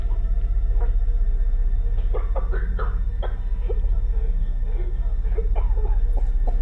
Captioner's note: sudden screeching music; gentle tense music; victim coughing